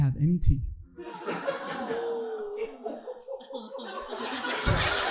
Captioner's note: audience laughing